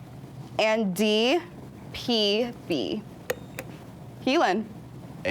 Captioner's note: buzzer beeps